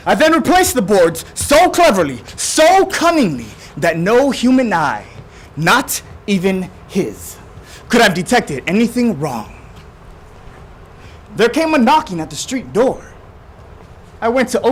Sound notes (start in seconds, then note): none